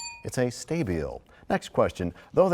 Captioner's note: bell rings, time expires